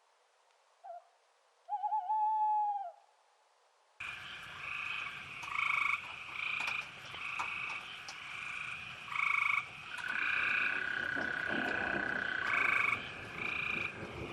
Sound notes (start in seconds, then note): 4.0 frogs ribbiting; 5.9 insects chittering; 11.2 thunder rumbling